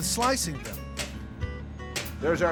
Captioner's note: chopping sound